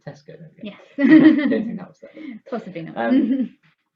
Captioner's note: laughs